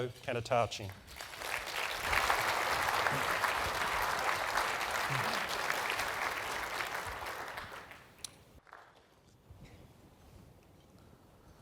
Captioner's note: applause